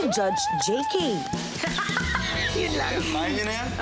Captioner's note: laughs